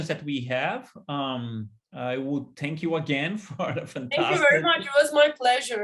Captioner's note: laughter